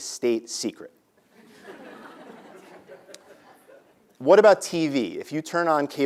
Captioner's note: laugh